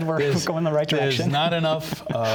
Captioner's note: laughter